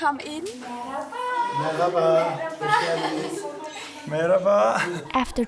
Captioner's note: in Turkish